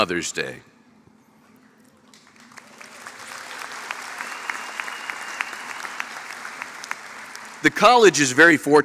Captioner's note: applause